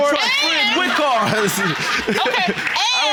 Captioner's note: laughs